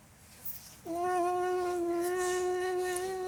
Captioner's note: hums special wedding song